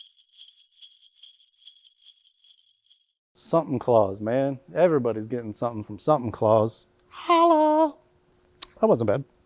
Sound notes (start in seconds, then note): 3.4 sleigh bells ring